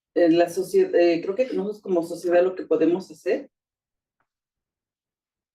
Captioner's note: speaking Spanish